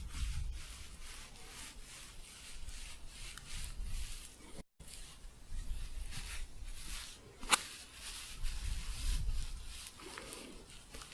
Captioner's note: scratchy shuffling